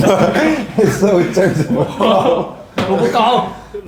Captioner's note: laughing so hard he's in tears